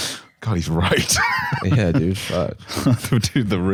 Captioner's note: laughs